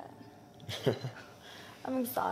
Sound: Brandon chuckles

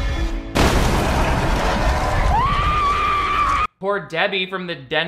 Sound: woman screams

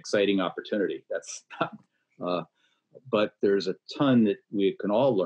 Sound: laughs

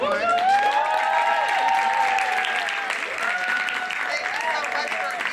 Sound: applause

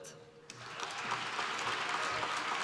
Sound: applause

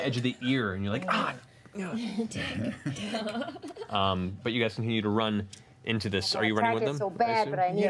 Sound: yelps

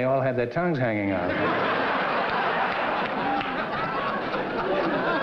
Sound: laughter

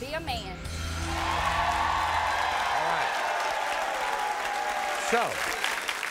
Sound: audience cheers

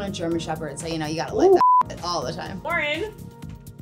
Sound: beep

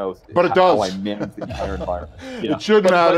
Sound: laughs

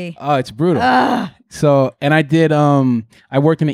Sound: groaning

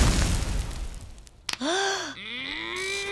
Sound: gasping

